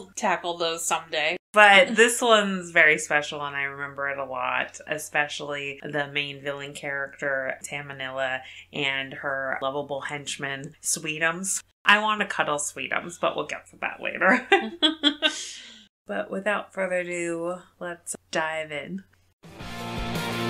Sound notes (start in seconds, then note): 14.5 laughs; 19.4 transition music plays